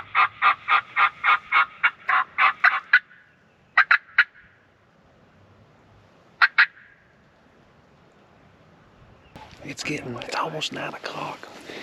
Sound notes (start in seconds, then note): 2.2 squawking starts again; 6.2 man Makes bird calls Sounds With hands and Mouth